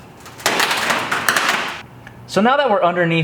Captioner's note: metal creaking